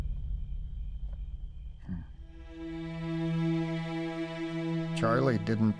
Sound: Charlie grunts

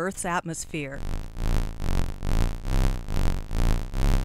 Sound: buzzing

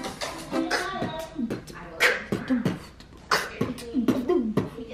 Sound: beat boxing

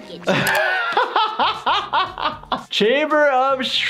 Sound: laughing

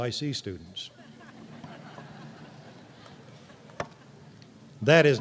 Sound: laughter

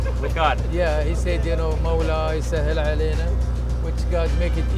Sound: speaks foreign language

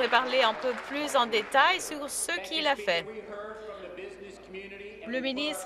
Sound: some Applause

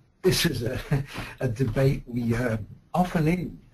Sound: voiceover

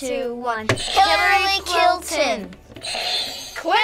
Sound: buzzer rings

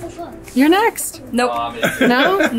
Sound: laughs

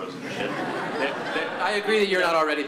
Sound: laughter

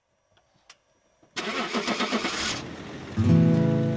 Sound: truck engine starting

